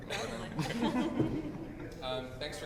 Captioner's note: laughter